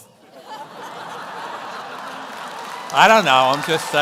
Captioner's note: audience laughs